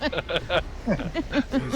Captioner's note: laughing